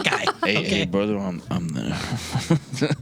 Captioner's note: laughing